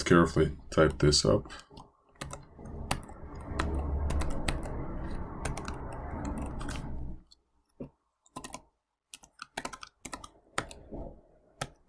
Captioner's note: typing